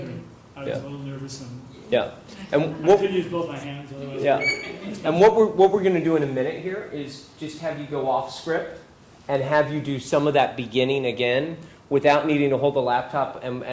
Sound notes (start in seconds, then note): 4.2 laugh